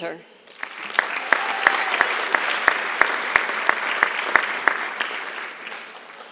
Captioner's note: applause